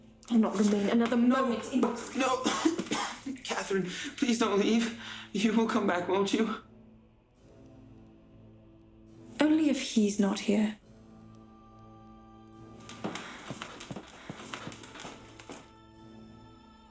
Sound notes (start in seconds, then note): 2.1 coughs; 11.2 soft dramatic music